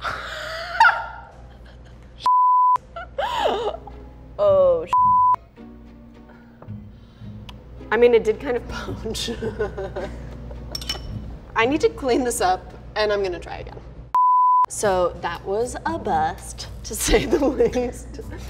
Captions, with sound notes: (laughing) (beeps) Oh, (beeps). (slow music) I mean, it did kind of poach (laughs). I need to clean this up and I'm gonna try again. So that was a bust, to say the least (laughs).